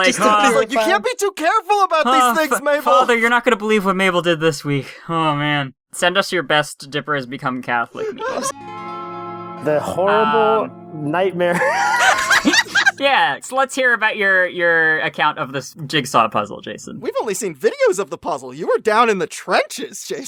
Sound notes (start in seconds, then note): 11.5 laughter from everyone